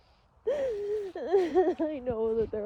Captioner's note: sobs viscerally, thorough words